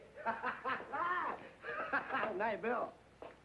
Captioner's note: happy laughing